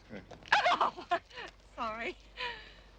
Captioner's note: laughing